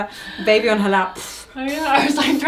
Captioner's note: imitating blowing air